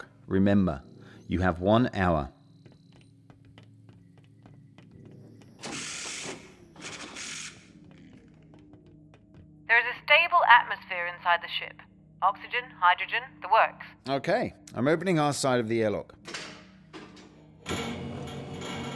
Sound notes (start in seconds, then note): 2.3 footsteps; 5.6 blizzard door opens; 9.9 radio; 17.6 airlock opens